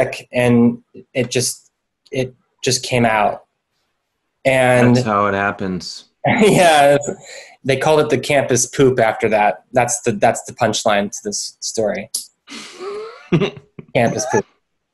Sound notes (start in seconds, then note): 12.5 laughs